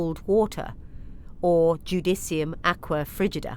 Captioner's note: speaking in foreign language